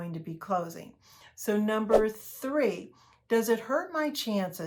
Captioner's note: air whooshes